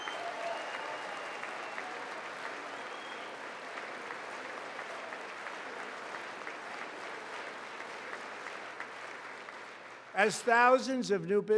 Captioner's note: applause